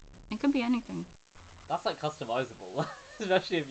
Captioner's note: laughing